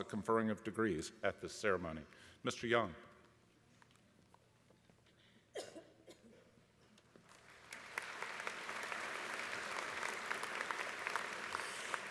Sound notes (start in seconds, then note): 7.2 applause